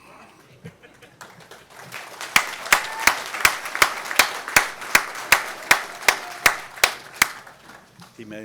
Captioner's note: applause